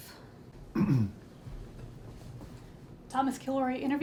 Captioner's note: se aclara la garganta